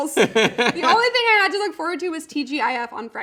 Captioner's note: laughing